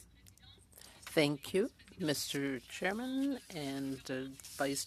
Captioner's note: speaking French